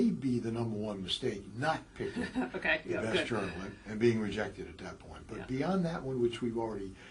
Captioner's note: laugh